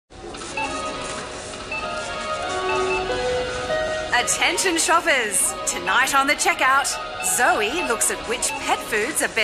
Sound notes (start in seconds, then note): 0.1 beeping